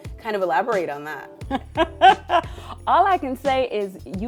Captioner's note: laughs